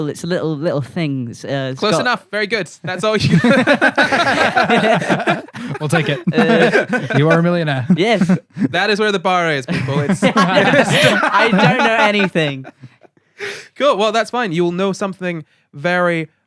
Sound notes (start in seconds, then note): 2.8 laughter